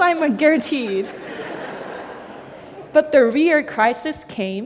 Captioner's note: laughter